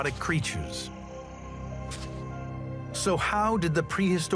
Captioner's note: gentle suspenseful music; birds chirp